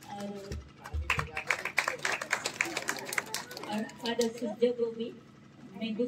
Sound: applause

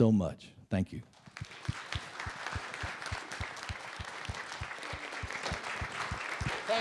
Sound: applause

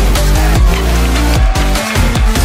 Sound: audience cheering and clapping

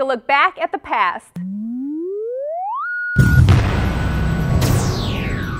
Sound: sound Effects

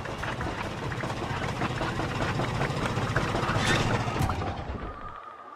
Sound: engine noise; engine turn off

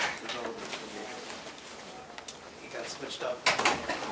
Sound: indistinct conversation

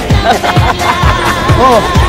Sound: laughter

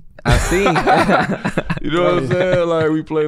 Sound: laughing

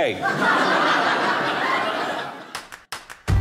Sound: audience laughing

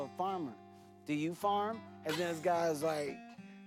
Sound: laughs

